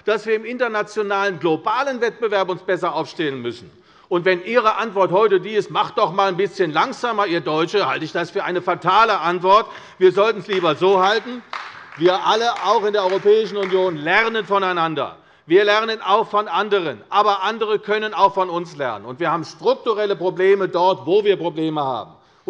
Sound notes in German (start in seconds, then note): 10.3 Beifall bei der CDU